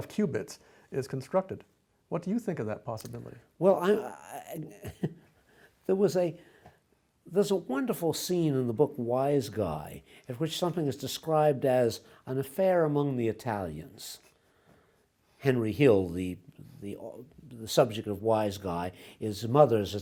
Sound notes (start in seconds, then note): 3.8 chuckles